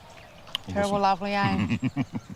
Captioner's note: chuckles